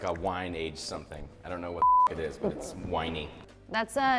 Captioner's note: beep